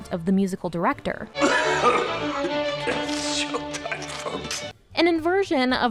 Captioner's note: coughing heavily